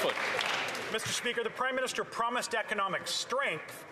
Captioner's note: some Applause